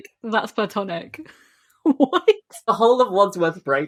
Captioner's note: laughing